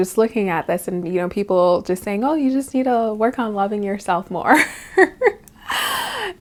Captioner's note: laughs